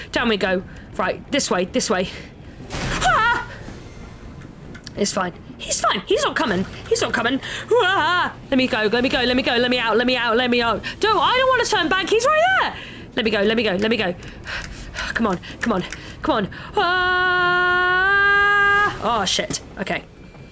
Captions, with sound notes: Down we go! Right, this way! This way! *screams* It's fine, he's fine, he's not coming, he's not coming Hwaaahhhhhhh, let me go, let me go, let me go! Let me out! Let me out! Let me out! Don- I don't wanna turn back! He's right there! Let me go! Let me go! Let me go! *heavy breathing* C'mon! C'mon! C'mon! *long scream* Ah, sh*t, okay!